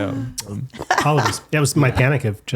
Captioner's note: laughing